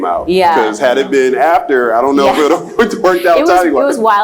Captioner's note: laughs